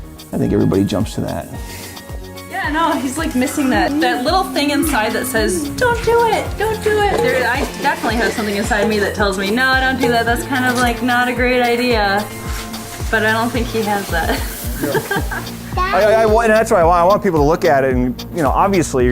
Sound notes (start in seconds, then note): 14.2 laughing